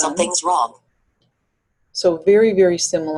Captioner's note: voiceover